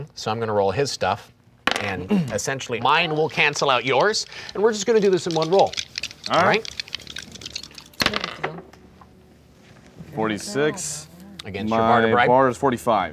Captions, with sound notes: so I'm gonna roll his stuff, and essentially mine will cancel out yours, and we're just gonna do this in one roll, alright? (rolling dice) - 46 - Against your barter-- - My bar is 45. - Man.